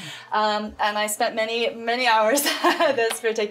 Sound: laughs

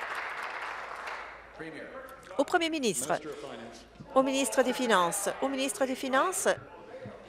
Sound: applause

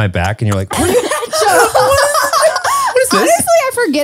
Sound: everyone laughs

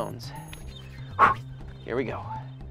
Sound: blowing

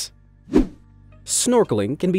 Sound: transitional wipe-screen rushing sound

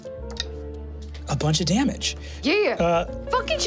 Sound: dice tapping table

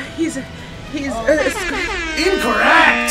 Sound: buzzer blares; air horn blasts

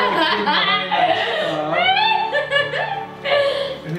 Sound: laughs

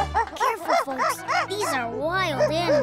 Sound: growling

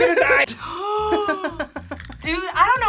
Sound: both gasp; React laughs

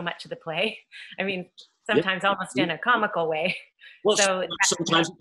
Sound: laughs; laughs

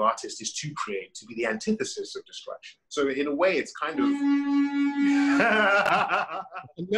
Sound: car honking

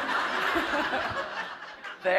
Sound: laughter

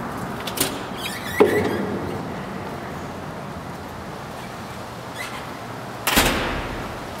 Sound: door opens and closes

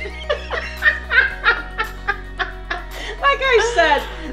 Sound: laughing

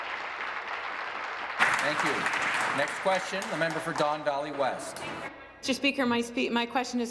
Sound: applause

